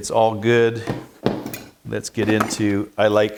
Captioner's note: metal thumping